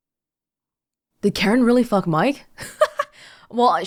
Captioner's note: chuckles